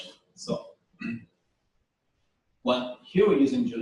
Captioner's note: pause